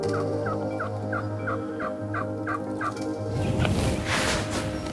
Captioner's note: bird squawking